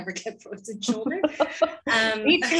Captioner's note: laughter